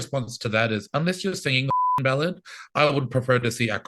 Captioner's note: beep